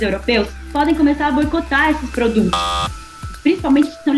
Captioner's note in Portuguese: buzina de alerta